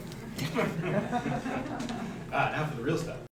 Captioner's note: people laugh